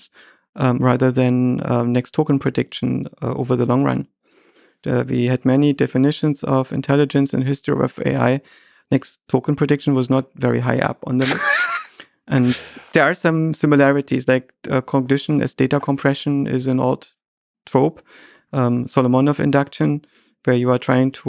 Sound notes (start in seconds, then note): 11.2 Lex laughing